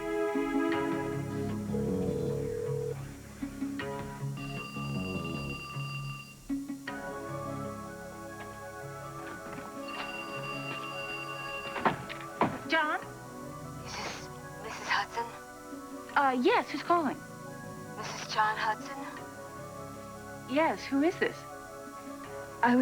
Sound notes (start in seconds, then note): 5.0 telephone rings